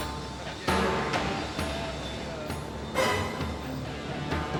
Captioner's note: workers chattering